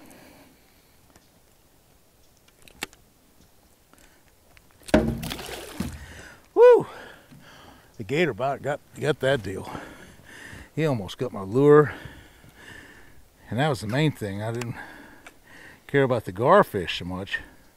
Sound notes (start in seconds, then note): 4.8 fish splashing; 4.9 thunk